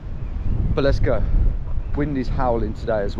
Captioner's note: wind blowing